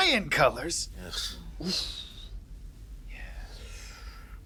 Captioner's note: Benny groans